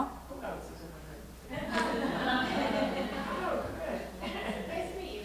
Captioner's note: audience laughing